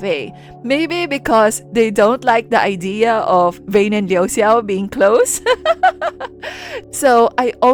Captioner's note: laugh